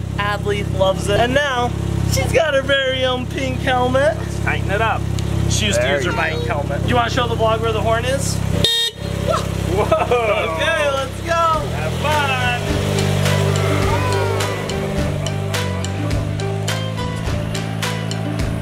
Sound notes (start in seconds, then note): 8.5 horn honking; 12.7 upbeat music